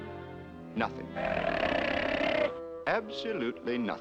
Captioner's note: snarling